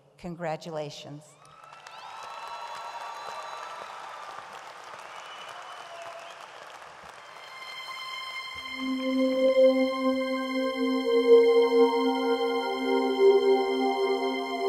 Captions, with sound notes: Congratulations. (audience cheers and applauds) (dreamy music)